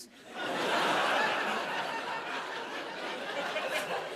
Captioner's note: laughter